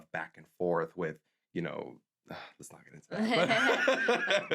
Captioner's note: sighs; laughs